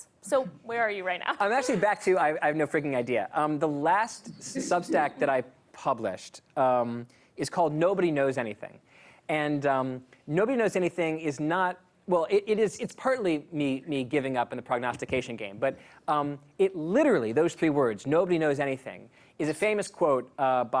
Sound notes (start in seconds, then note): 1.3 laughter